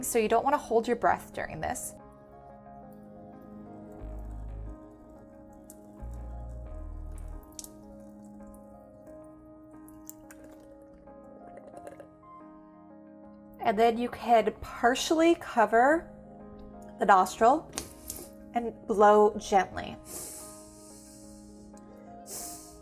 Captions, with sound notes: so you don't wanna hold your breath during this. (tranquil music) (water dipping) And then you can partially cover the nostril, and blow gently. (gently blowing)